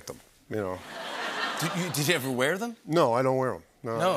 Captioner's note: laughter